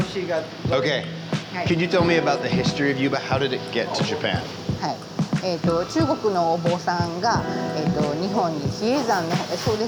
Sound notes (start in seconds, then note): 5.1 speaking Japanese